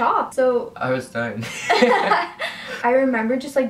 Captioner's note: laughs